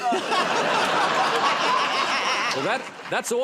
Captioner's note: laughter